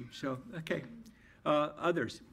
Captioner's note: none